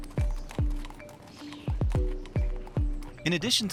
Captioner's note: hooves clopping